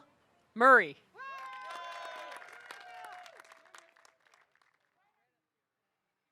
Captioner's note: audience cheering and applauding